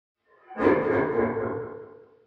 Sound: laughing

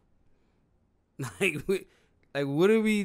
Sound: laughs

